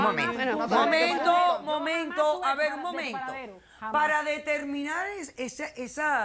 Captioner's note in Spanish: Hablan al unísono